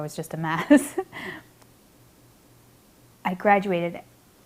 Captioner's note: laughs